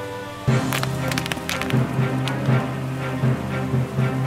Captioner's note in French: cailloux qui roulent, reprise des percussions